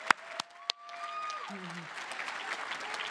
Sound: applause

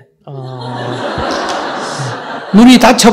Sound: audience Laughter

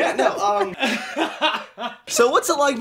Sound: laughs

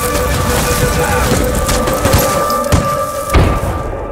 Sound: gunfire

